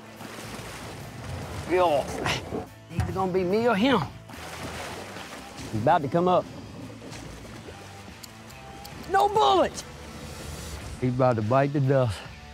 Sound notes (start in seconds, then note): 0.2 splashihing; 4.5 splashihing; 8.2 clicking